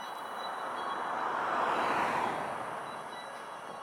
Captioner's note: traffic noise